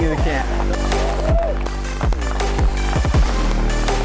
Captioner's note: clapping